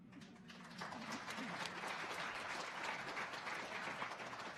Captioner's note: audience applauding